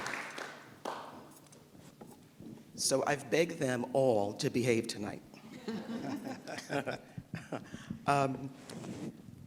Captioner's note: applause